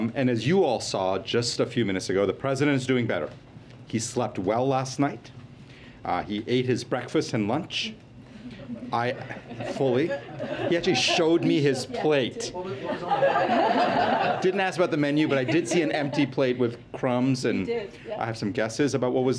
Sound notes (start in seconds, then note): 8.4 laughter